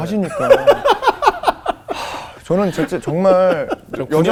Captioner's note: laughing